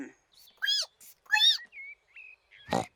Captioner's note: squeaks; snorts